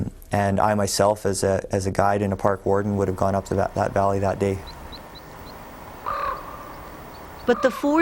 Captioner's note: raven croaks